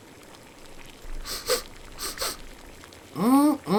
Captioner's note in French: renifle